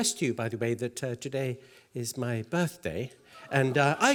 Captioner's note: applause